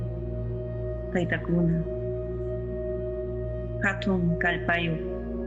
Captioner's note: person speaking in foreign language